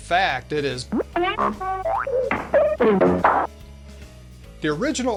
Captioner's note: multiple cartoon sounds - I wonder what he actually said?